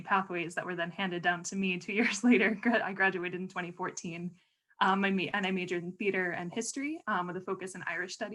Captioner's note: laughter